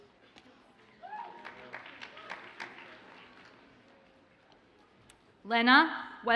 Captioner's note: audience cheers and applauds faintly